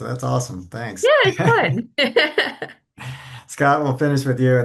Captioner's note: chuckles